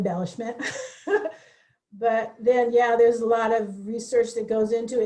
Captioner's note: laughs